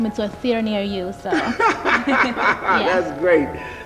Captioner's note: laughing